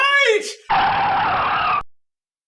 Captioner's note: tyre screech sound